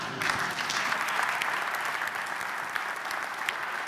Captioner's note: applause